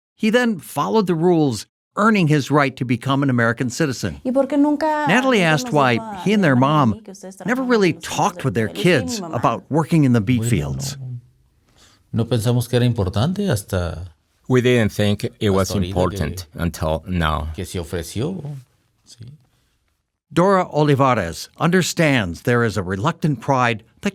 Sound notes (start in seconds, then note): 12.4 speaking in foreign language